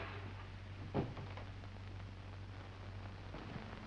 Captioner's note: none